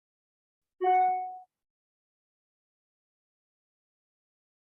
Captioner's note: phone beeping